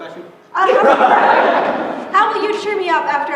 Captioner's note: laughter